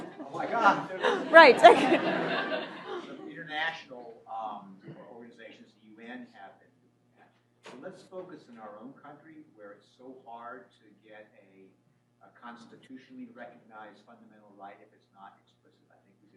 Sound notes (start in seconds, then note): 2.2 laughter